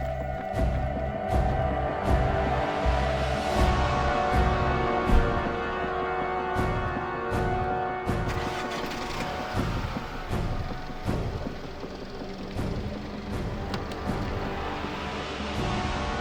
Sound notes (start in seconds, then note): 8.0 car engine roaring; 9.3 dramatic music